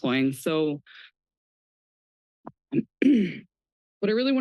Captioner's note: clears throat